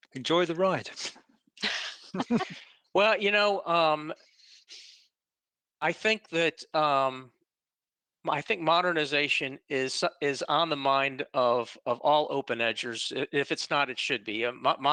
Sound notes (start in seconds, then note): 1.6 laughing